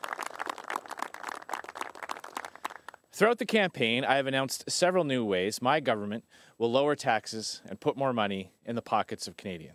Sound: applause

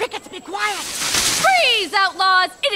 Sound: bushes rustling

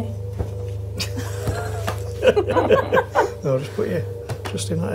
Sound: laughs

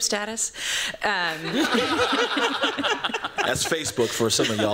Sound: laughter

